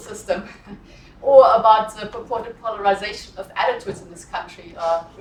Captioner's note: laugh